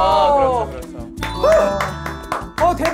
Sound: cheering at the amazing achievement

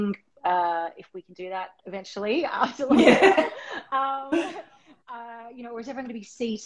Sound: laughter

